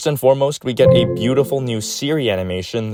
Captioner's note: siri chimes